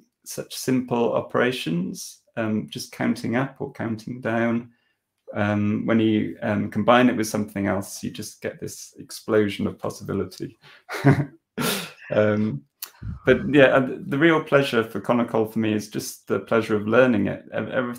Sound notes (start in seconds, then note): 9.9 laughing